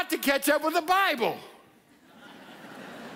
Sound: audience laughs

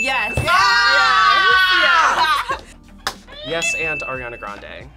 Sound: both shout

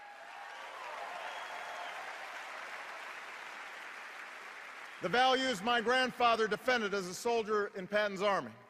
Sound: cheers and applause

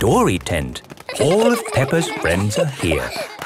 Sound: excited babbling

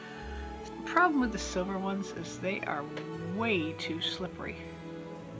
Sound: exasperated sigh

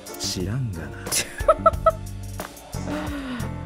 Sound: chuckles

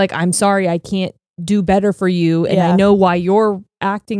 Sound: none

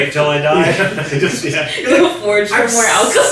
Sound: everyone laughing

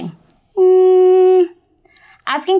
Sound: humming

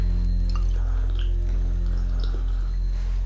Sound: slurping

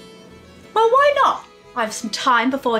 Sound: voices approach

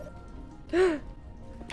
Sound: gasps

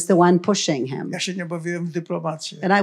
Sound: foreign language

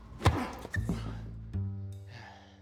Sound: racket smacking; slow jazz music

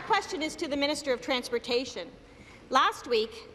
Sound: applause

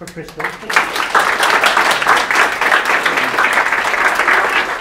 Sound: audience claps

